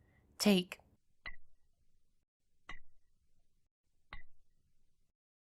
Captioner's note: faint bottle taps